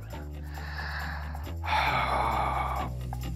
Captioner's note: sighs